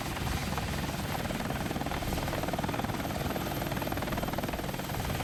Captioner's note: helicopter blades whirring